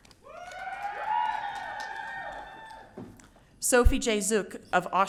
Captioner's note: audience cheering